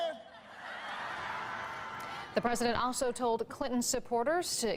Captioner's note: laughter